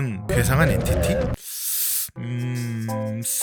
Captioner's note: hmm